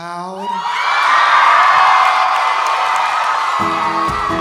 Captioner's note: audience cheering; audience applauding; gentle guitar music